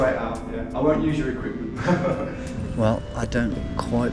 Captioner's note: both chuckle